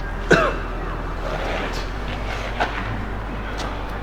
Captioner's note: Paul coughing; tense music